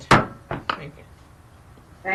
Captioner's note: gavel strikes